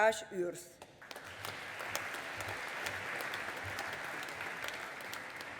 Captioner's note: audience applauding